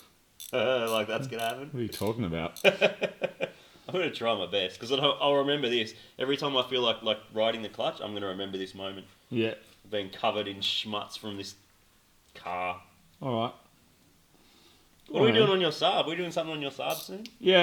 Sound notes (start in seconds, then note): 2.6 chuckles; 2.6 snickers